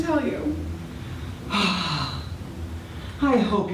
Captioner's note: sighs